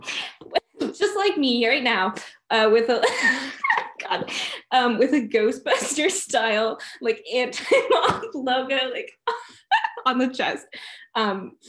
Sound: laughter

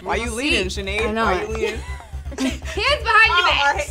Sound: laughs

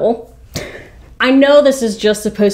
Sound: chuckles

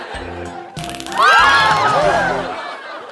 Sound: taser sounds and screaming

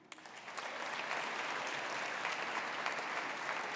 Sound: audience applauding

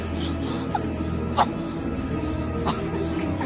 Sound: coughs

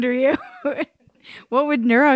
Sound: laughs

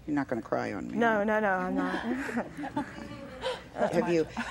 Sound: laughs

